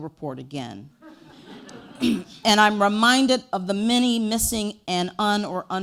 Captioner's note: audience laughter